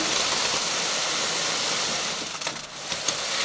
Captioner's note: cement pumping